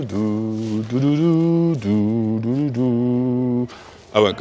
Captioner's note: hums